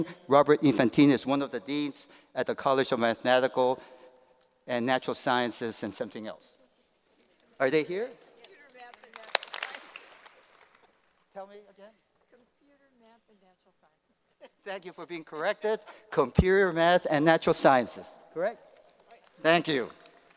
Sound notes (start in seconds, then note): 8.4 applause